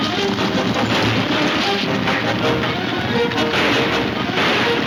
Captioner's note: gunshots banging